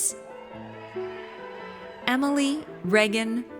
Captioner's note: audience cheers